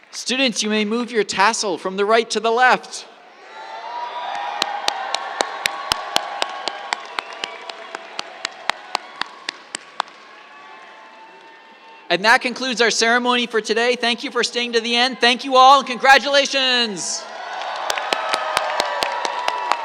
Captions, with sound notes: Students, you may move your tassel from the right to the left. [CHEERS, APPLAUSE] And that concludes our ceremony for today. Thank you for staying to the end. Thank you all, and congratulations. [CHEERS, APPLAUSE]